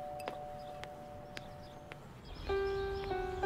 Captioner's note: Footsteps